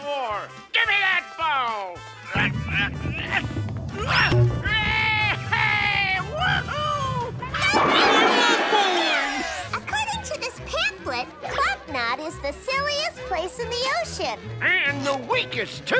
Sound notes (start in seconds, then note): 1.8 grunting